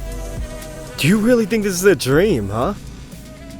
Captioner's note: laughs